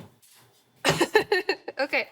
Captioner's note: laughing